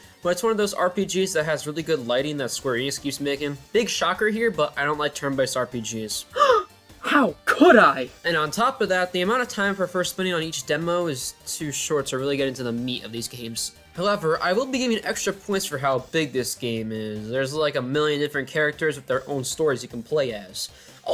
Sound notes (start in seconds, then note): 6.3 gasp